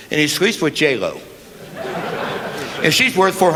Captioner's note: laughter